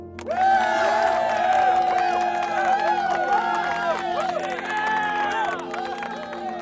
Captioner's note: cheering and applause